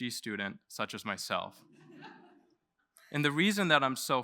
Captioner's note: laughter